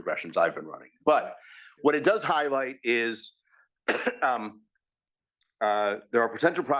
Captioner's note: cough